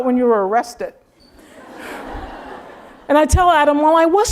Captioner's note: laugh